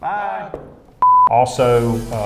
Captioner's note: beeping